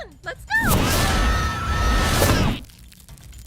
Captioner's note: screaming